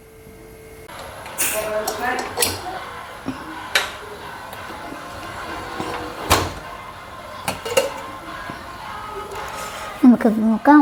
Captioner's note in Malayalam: കരഘോഷം